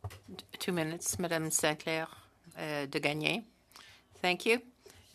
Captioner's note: speaking French